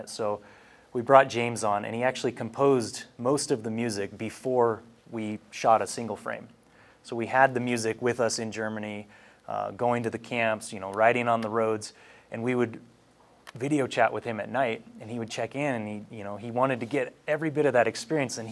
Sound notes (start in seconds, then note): none